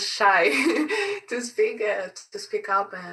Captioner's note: chuckling